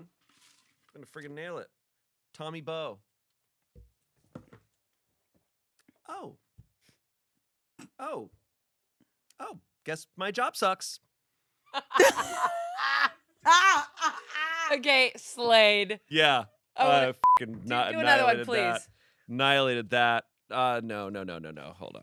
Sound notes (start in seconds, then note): 11.7 laugh; 17.2 beep